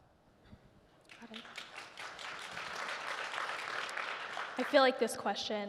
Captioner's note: audience clapping